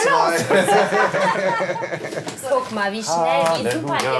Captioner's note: laughter